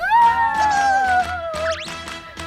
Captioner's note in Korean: 환호